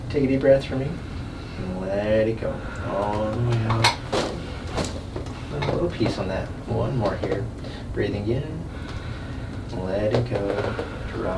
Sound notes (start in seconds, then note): 2.8 pops